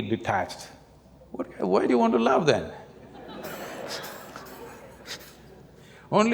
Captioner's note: laughter